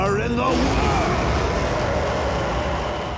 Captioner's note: flames roar